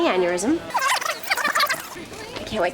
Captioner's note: rewind